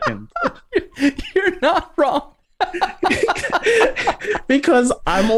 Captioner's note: laughter